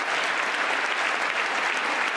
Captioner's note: applause